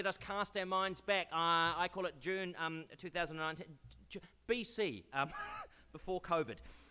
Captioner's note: laughs